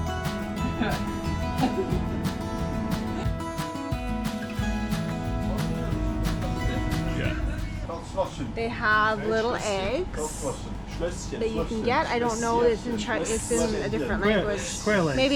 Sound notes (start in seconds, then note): 0.0 instrumental music; 7.2 laughs